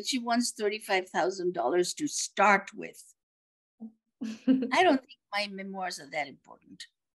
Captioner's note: laughs